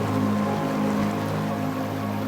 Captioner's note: water gurgling